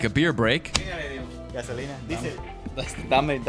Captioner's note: speaking Spanish